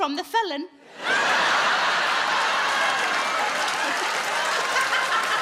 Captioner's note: audience laughing; Sarah laughing loudly